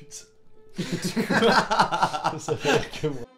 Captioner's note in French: Rires